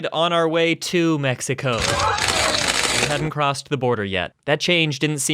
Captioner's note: reporters go wild